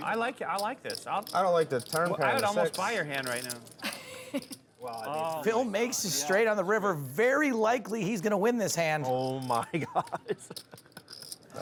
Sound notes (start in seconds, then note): 3.8 chuckles